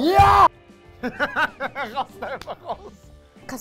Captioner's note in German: lacht